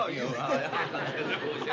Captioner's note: laughter